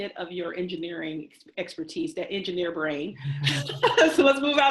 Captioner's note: both laugh